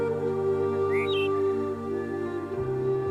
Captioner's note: birds singing